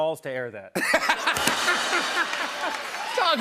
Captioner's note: laughter; rimshot